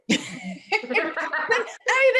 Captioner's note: laughter